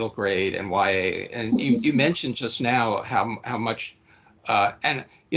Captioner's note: chuckling